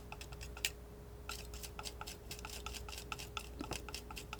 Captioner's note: scratching